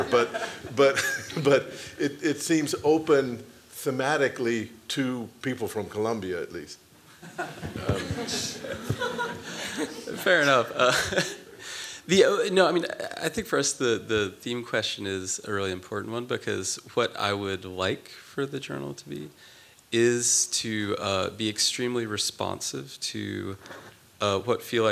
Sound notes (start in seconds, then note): 7.2 laughter